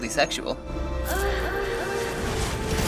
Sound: Bayonetta moans sensually

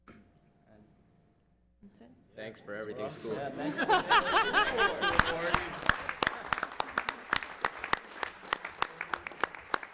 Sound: applause

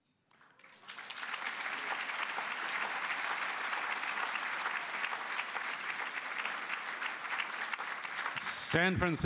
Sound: applause

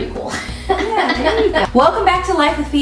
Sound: laughs

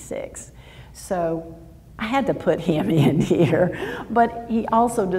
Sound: laughs

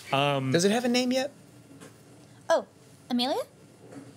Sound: none

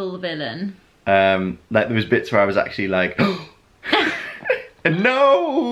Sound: gasps

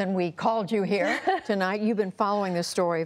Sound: laughter

